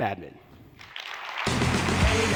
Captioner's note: applause